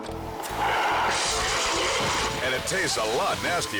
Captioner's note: extinguisher sprays